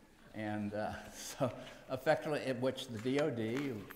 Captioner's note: laughs